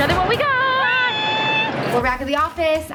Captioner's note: squeeling